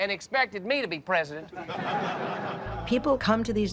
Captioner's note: laughter